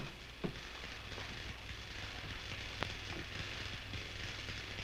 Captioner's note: computer buzzing